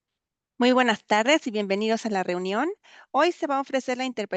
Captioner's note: speaking Spanish